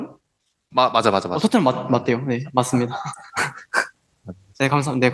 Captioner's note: laughs